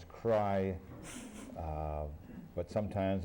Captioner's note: laughter